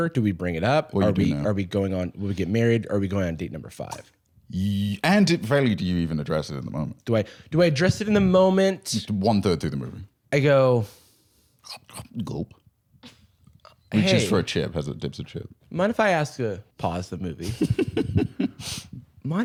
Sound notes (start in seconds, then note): 11.6 chomp-chomp, gulp; 17.4 laughs